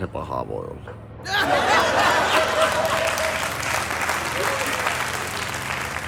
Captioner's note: laughter and applause